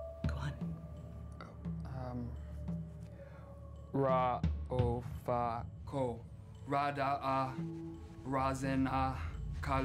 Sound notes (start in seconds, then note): 3.5 chanting in foreign language